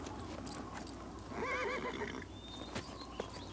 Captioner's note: horse neighs